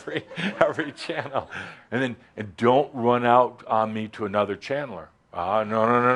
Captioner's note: chuckles